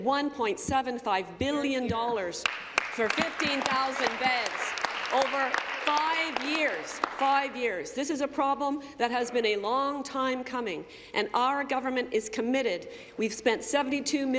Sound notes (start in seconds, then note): 8.3 applause